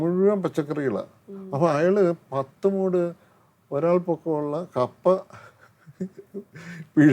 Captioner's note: laughs